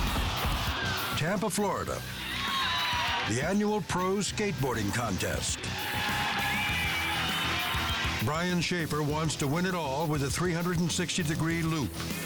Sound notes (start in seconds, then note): 2.5 audience applauds